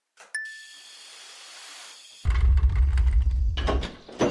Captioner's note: electric buzzing; bell dings; gas hissing; drawer rolling